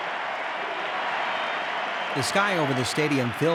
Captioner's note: crowd cheering